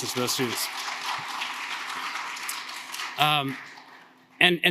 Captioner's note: audience applauding